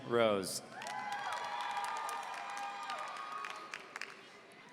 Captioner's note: audience cheering